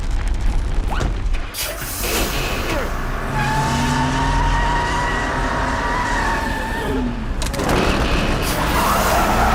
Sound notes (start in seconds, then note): 1.6 engine starts; 2.7 tires screech